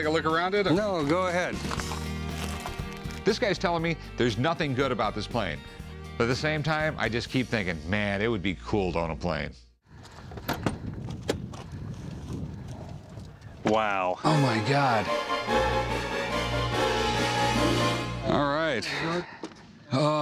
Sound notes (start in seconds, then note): 9.9 thudding; 14.2 dramatic music